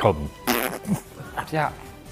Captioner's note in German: Furzgeräusch